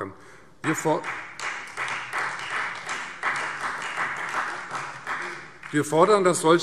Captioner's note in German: Beifall Freie Demokraten, vereinzelt SPD und DIE LINKE